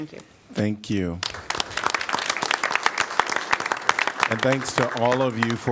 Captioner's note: applause